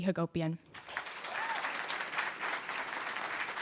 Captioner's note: cheers and applause